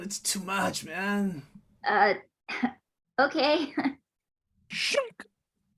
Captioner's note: giggles